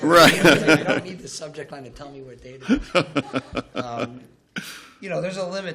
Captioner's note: laughter; laughter